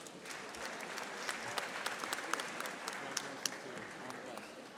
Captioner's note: audience applauding